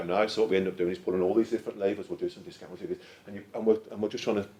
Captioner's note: mutters rapidly